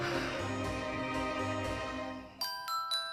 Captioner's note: Ava exhales; phone ringtone plays